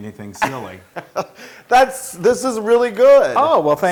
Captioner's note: laugh